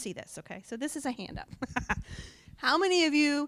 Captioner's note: laughs